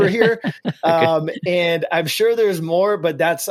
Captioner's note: laughs